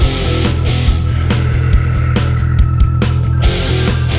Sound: growl

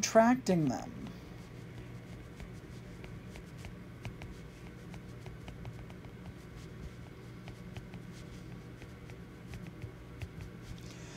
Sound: writing

